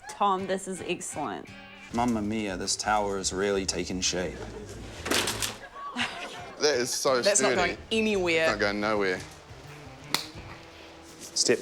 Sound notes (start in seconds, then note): 0.0 whispers; 5.3 laughs